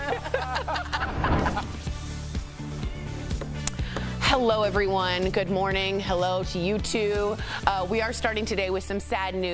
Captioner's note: laughter